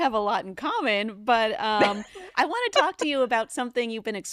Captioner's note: chuckles